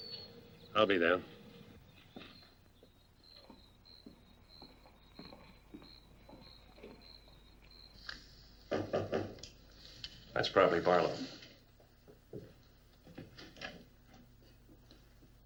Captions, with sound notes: I'll be there. [KNOCKING] That's probably Barlow.